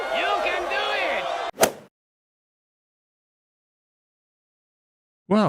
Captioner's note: golf swing sound effect